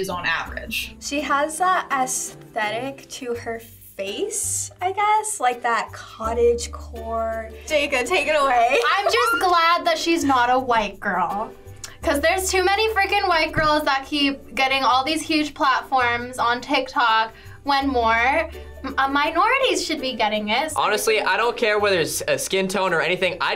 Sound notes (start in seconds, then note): 9.0 squeals softly